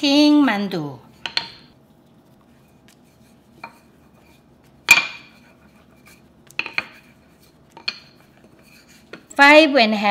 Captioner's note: more tapping